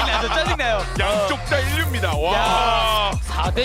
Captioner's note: players laughing too